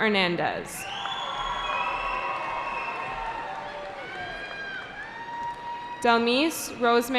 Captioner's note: cheering